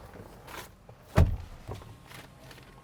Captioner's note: door thuds